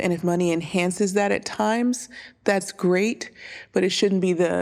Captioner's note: none